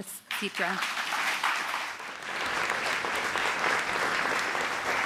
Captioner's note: applause